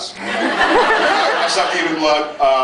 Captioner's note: laughs